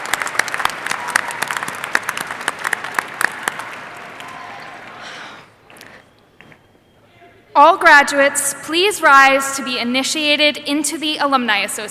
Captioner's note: applause